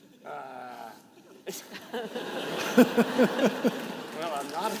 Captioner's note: participants laughing